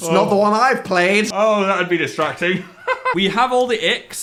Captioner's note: laughing